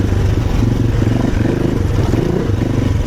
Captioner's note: engine revving